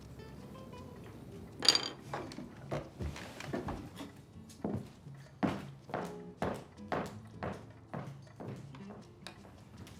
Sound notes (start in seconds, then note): 1.6 silverware clatters; 5.0 heels clack